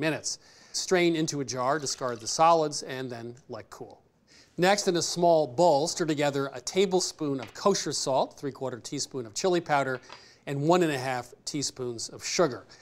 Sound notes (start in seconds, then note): none